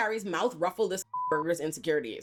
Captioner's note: beep